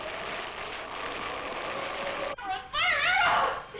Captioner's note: screams